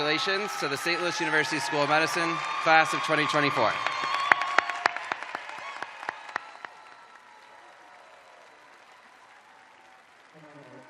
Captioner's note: cheers and applause